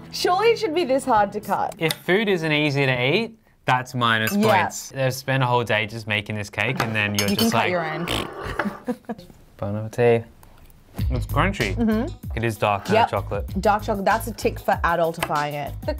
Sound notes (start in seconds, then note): 8.4 chuckles